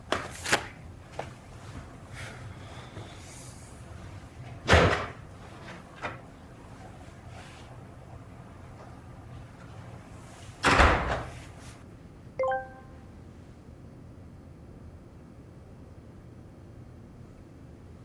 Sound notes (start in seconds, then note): 4.6 door clicks; 10.8 door bangs; 12.4 machine beeps